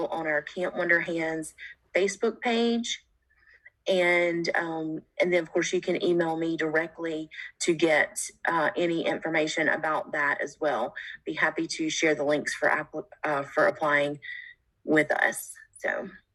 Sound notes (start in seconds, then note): none